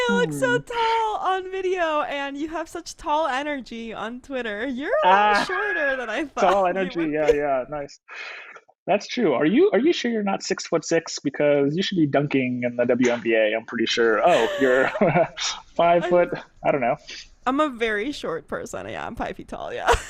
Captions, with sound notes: - You look so tall on video and you have such tall energy on Twitter, you are a little shorter than I thought (laughs), Tall energy yeah, yeah nice. That's true are you sure you're not six foot six because you should be dunking on that WNBA am pretty sure, Oh, you're, (laughs), five foot I don't know. - I'm a very short person, yeah I'm five feet tall, yeah.